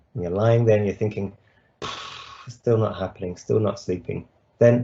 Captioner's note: puffs